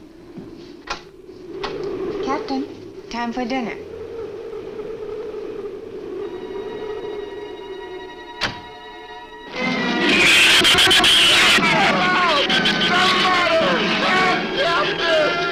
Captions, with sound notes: (wind howls) Captain? Time for dinner. (suspenseful orchestral music) (door closes) (shrews screech) - Somebody help! Somebody! Help, Captain!